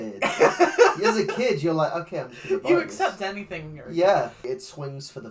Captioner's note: laughs